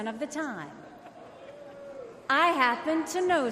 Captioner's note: crowd jeers